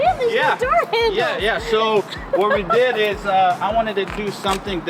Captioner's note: laughs